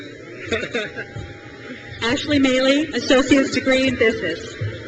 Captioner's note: trustee laughs